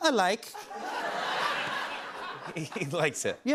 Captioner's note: laughter